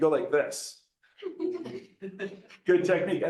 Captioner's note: laughter